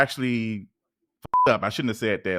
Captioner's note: beep